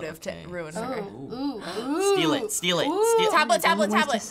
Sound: gasping

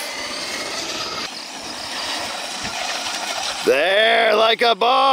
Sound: engine roaring

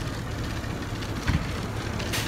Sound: thud

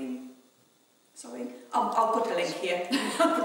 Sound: laughing

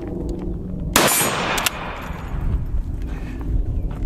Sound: gun shot

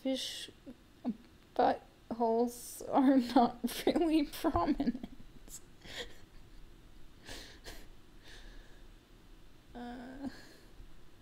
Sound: laughing

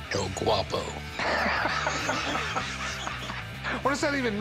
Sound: laughing

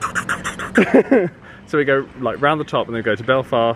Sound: laughs

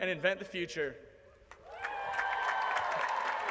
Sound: applause

